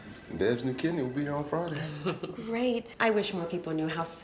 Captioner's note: Bev chuckles